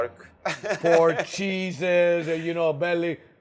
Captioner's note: laughs